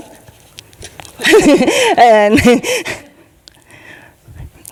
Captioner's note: laughing